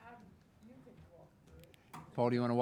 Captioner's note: people chattering